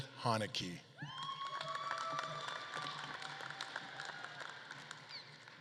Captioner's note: audience claps and cheers